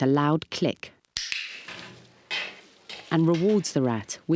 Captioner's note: clicks